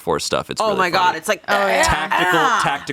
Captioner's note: grunts